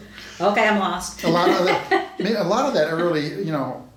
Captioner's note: laughs